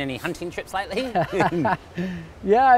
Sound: laughs

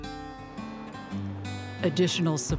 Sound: flowing water

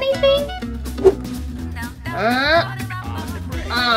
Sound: whoosh; playful music

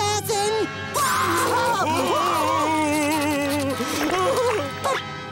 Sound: crying

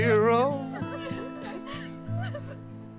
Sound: crying

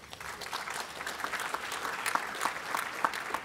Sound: applause

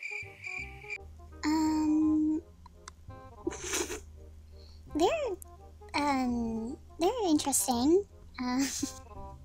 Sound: laughing

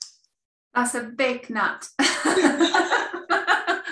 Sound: laughter

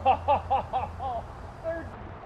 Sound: laughs

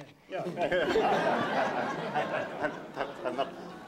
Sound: laughter

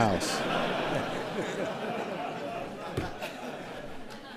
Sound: laughter

